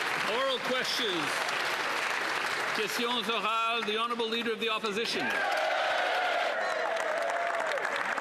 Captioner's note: applause